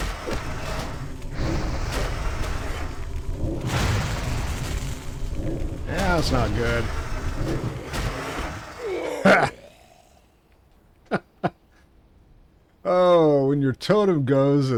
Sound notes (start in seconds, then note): 0.0 gunfire; 3.5 gunfire; 11.0 laughs